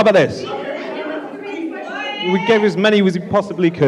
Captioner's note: audience Shouting